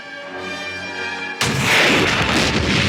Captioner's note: dramatic music; explosion roars; launcher fires